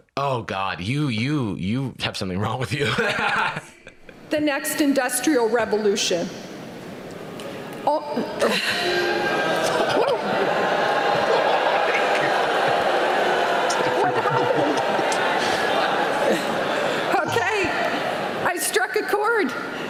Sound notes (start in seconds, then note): 2.8 laughs; 7.8 crowd booing; 11.6 laughing